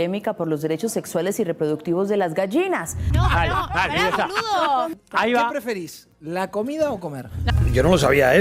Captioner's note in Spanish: risas